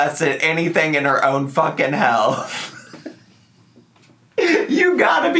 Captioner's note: laughs